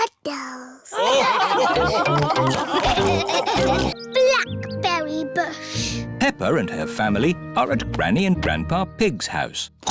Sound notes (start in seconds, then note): 0.9 laughter